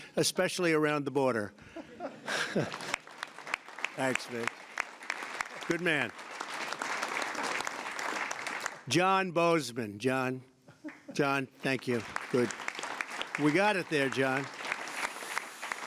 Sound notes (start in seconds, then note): 1.6 laughter; 6.7 applause; 11.6 applause